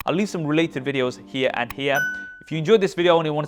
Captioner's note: bell dings